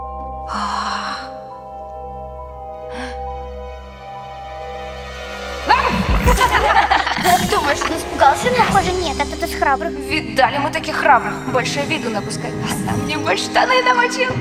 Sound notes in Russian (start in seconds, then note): 5.7 Смех, разные голоса повсюду